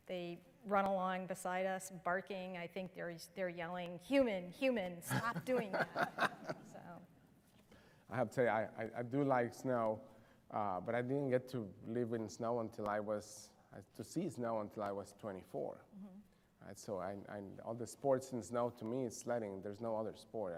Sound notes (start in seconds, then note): 5.0 laughter